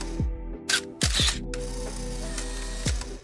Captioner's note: film reel spins; camera shutter clicks; film reel spins